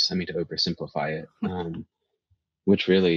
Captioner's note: chuckles